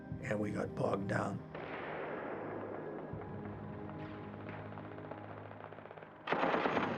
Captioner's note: faint explosion; artillery fire